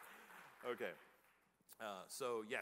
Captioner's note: applause